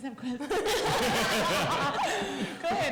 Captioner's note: laughter